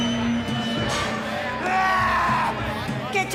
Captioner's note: screams and makes shooting sound